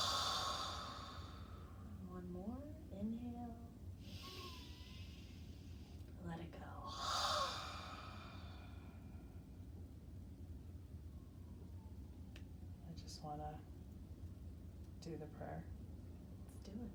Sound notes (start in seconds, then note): 0.0 exhaling deeply; 4.5 breathing deeply; 6.8 exhaling deeply